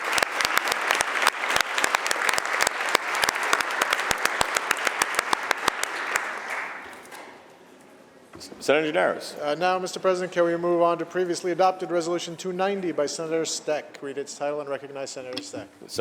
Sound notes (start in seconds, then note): 3.5 applause